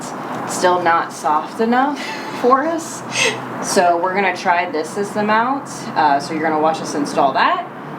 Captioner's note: laugh